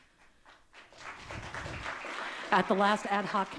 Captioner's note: audience clapping